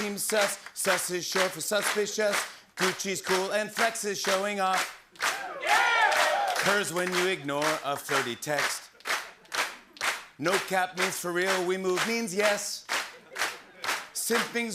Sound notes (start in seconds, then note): 5.2 cheers